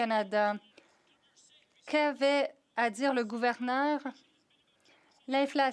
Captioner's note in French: voix de l'interprète